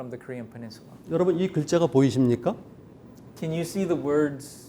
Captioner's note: speaking in Korean